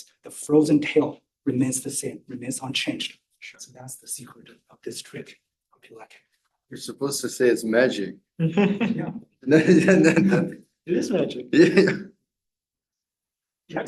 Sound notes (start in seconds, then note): 8.5 laughter